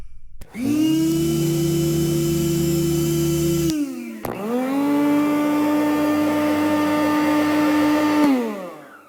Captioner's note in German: Elektrorasierergeräusch; Staubsaugergeräusch